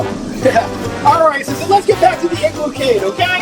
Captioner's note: chuckles